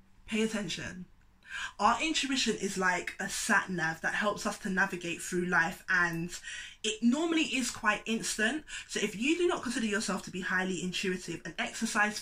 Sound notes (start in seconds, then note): none